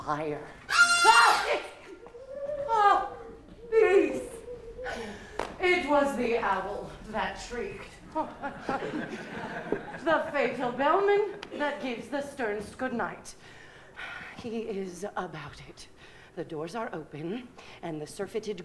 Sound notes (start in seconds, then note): 1.1 shriek